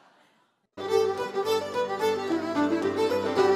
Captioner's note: audience laughs; jaunty fiddle music